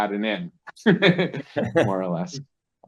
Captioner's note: laughs